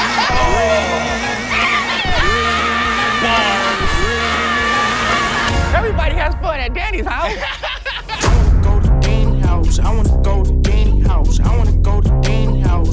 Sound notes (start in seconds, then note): 1.4 screams; 6.9 laughs